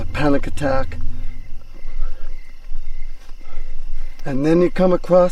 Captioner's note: crickets chirping